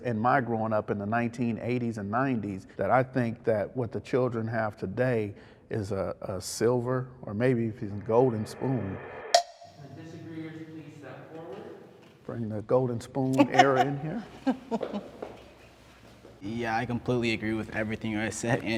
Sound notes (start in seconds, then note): 15.0 laughs